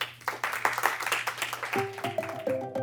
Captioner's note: applause